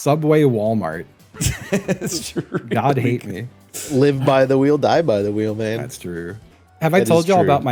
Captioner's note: laughs